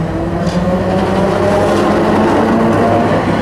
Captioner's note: loud tramway noise